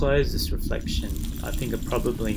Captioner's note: sizzling